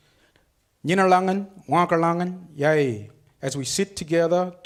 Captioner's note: speaks foreign language